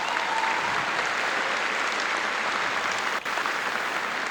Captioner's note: audience clapping